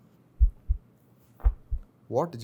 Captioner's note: heartbeats